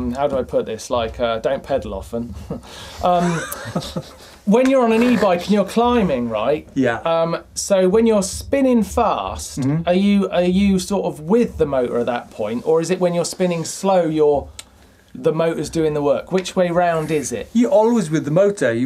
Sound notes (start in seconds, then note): 2.9 laughing